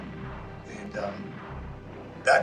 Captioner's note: guns firing, bombs, sounds of war